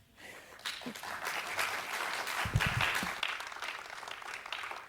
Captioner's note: audience applauds